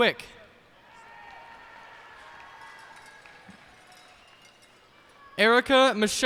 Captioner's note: cheers and applause